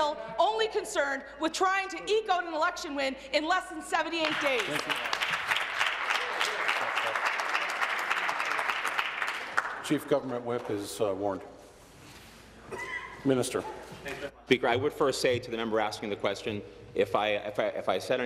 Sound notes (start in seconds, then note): 8.0 applause